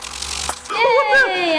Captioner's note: buzzing noise